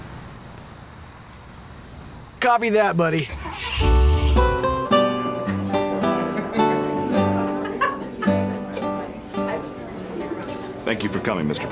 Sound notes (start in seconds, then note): 3.2 truck engine starts up